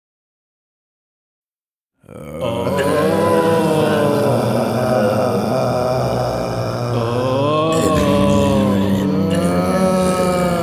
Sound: zombies moaning

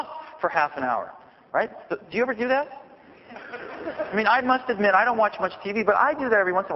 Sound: laughter

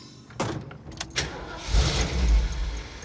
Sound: car starts

